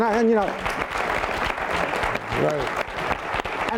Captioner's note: applause